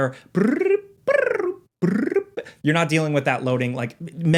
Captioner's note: person humming